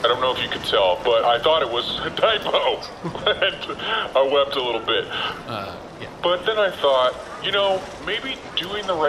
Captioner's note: laughs